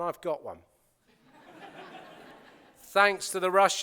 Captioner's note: laughter